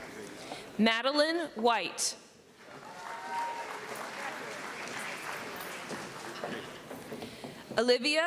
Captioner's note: cheering